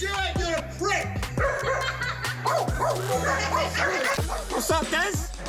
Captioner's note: woman laughing; dog barking